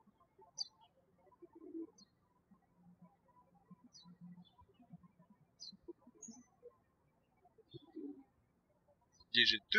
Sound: birds chirping

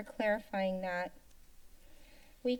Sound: inhales

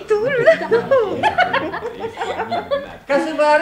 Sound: the girls are laughing

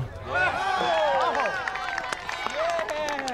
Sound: cheering

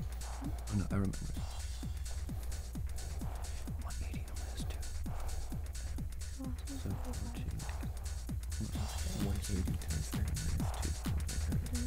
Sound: wispering

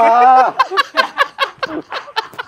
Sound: laughs heartily

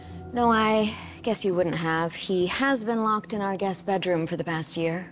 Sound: none

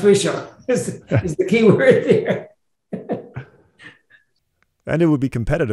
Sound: laughs

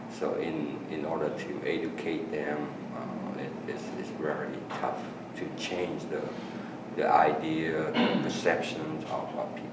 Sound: coughing in background

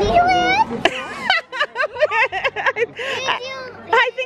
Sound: laughs

